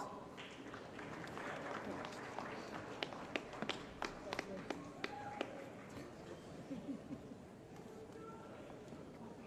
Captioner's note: applause